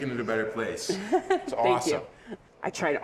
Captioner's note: laughing